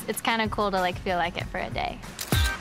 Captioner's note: camera snaps; bright, upbeat music